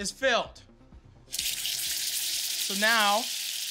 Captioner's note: oil sizzles